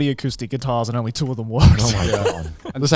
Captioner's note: laughs